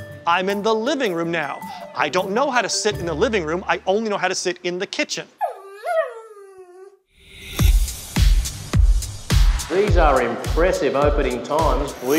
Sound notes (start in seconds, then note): 5.4 dog whimpering; 7.5 upbeat music